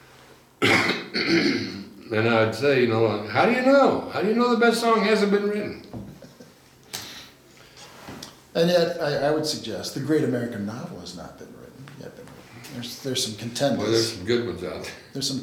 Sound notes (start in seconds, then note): 5.7 laughs